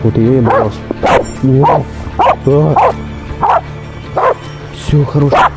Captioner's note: barking